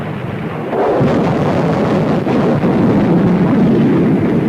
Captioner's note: explosions booming